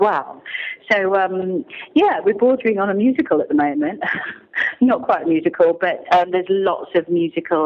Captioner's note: laughter